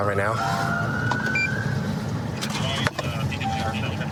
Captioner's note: police siren